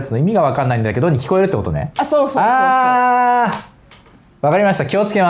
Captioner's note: laughs